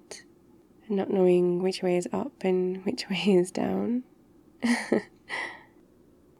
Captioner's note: laughs